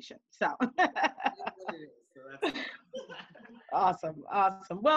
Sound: laughing

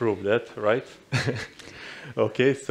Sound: chuckles

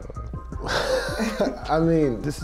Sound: laughing

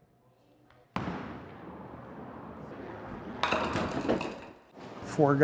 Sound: ball rolling down aisle and hitting pins

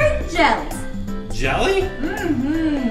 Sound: voiceover

